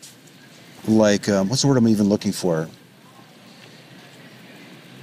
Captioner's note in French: il cherche ses mots